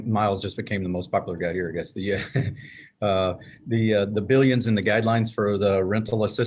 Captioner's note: laughs